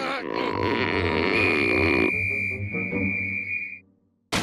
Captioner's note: whistle blows, echoes